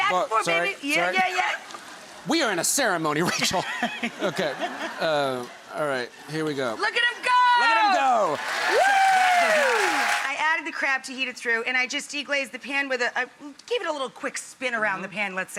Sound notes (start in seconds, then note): 3.2 laughter; 7.2 crowed cheering